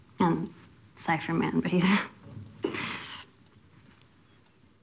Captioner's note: chuckles